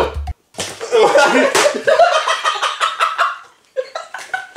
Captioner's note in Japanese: 笑い声